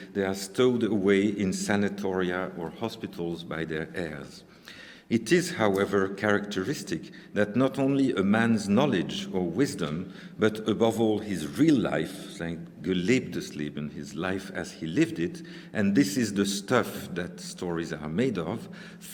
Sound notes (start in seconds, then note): 12.8 speaking german